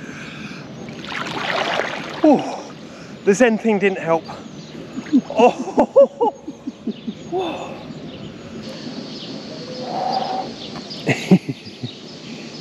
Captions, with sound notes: Ohhh. The Zen thing didn't help. Ooooh. [Laughter]